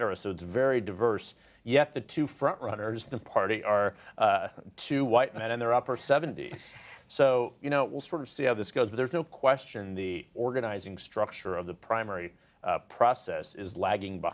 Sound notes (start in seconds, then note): 6.0 laughter